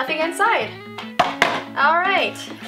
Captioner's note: box clatters